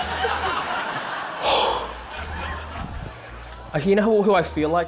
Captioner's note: exhales